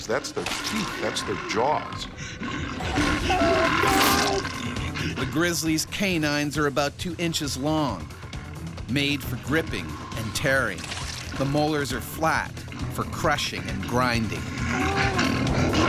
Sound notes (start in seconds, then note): 3.8 man yelling; 5.7 voiceover